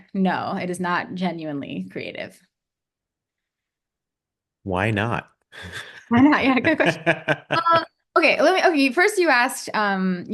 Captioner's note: polite laughs